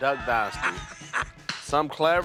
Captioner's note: laughs